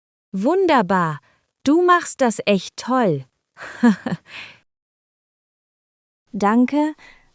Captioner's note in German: lacht